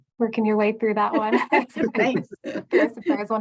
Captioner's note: laughs